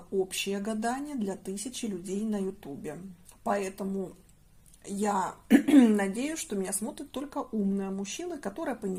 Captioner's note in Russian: откашливается